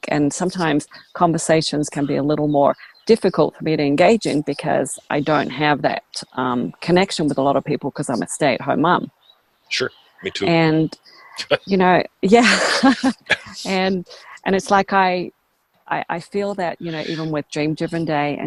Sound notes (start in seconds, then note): 12.3 laughs; 12.3 chuckles